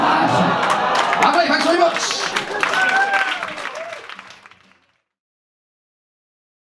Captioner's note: crowd cheers, claps; cheers